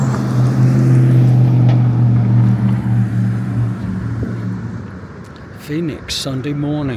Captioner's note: traffic noise